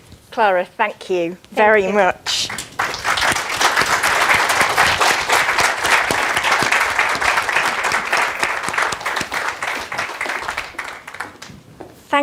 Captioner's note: clapping